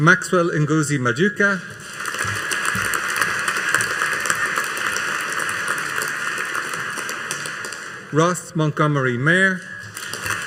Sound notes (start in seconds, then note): 1.7 audience applauding